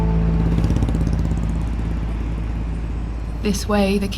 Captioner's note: traffic rumbling